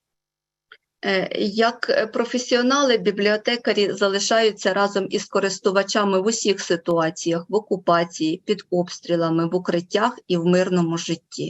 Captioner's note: foreign Language Spoken